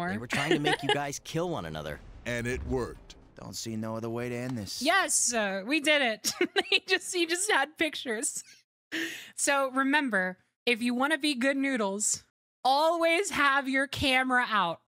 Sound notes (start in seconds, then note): 6.3 laughing